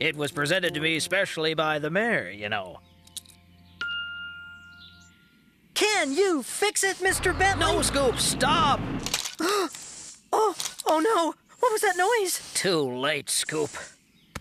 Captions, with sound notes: IT WAS PRESENTED TO ME SPECIALLY BY THE MAYOR, YOU KNOW! CAN YOU FIX IT, MR. BENTLEY? NO, SCOOP! STOP!! ( Crunch! ) OH! OH, NO! WHAT WAS THAT NOISE? TOO LATE, SCOOP.